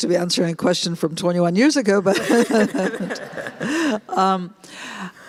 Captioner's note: laughter